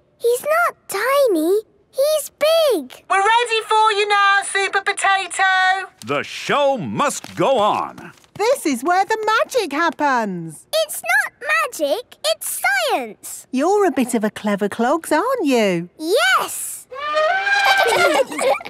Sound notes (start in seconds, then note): 3.0 through megaphone; 16.9 trumpets